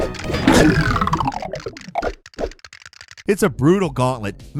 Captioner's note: blood squelching; bones clattering